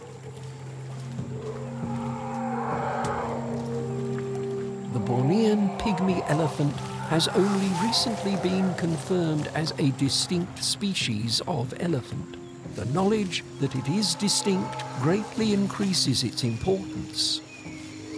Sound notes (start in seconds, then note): 1.3 animal roars